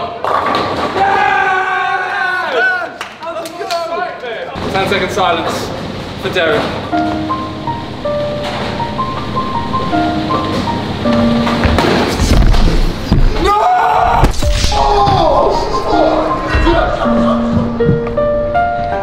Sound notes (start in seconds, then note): 0.8 lads cheering; 7.8 mournful music; 11.4 thudding; 15.4 mournful music